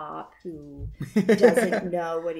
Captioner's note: giggles